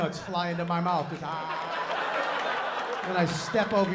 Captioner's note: laughter